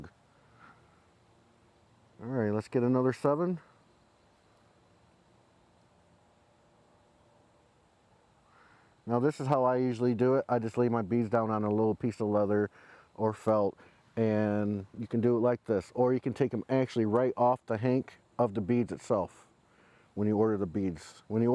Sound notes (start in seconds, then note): 4.6 silence